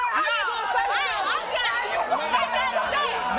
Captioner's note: yelling at each other and cursing; crowd cheering